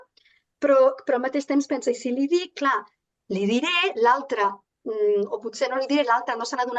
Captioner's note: continues speaking in Catalan